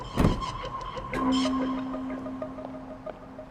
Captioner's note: door clicking